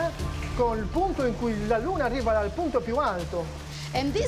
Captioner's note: speaking Italian